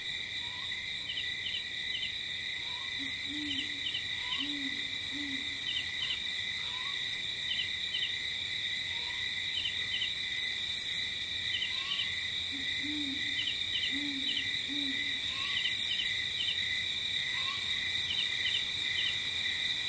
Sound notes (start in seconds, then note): 5.0 owl hooting; 7.2 light jungle ambience